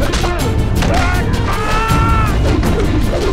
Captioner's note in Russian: крик боли